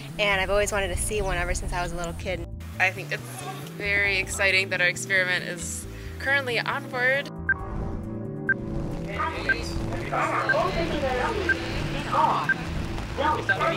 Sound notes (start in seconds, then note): 7.3 countdown ticking; 13.1 people chattering